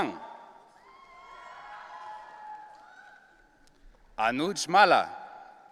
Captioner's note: audience cheering